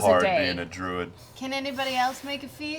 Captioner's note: none